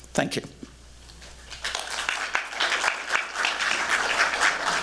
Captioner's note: applause